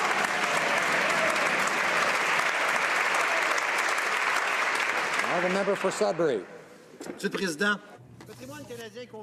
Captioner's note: some Applause